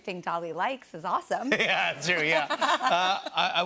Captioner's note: laughter